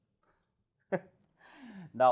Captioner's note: laughs in confusion